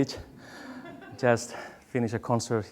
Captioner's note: audience laughs